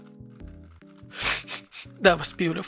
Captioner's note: sniffs